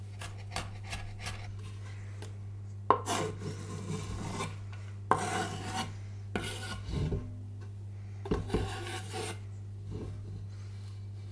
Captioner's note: chopping and scraping noises